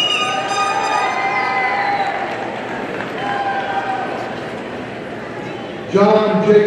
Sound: party blower squeaking; audience cheering

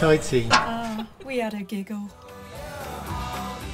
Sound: voiceover

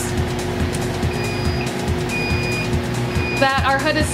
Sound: beeping

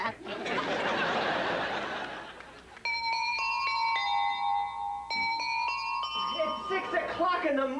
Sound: doorbell plays shanla

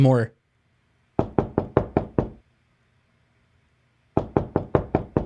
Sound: knocking on door

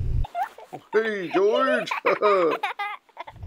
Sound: laughing

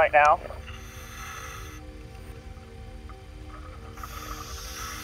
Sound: air whooshes

